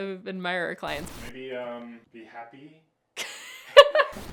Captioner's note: screen hissing; laughing; screen hissing